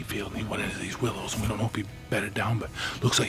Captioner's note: whispering